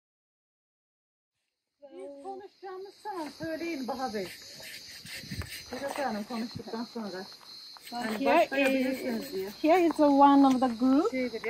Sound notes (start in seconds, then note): 1.8 ladies speaking Lydian; 4.2 scrubbing noises